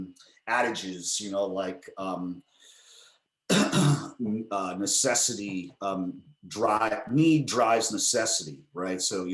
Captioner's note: coughs